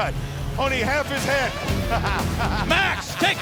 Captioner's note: laughs